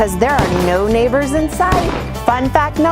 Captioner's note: gun shots